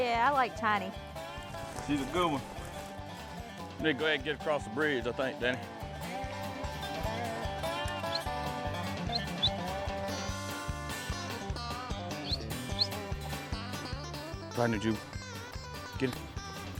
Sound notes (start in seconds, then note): 9.0 whistling